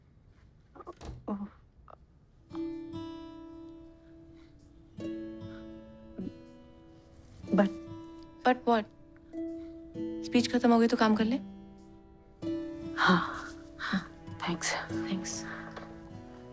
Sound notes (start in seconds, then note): 0.8 door closes